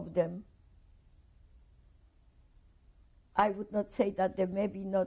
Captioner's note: pauses for 3 seconds